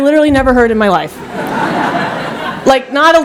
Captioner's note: laughter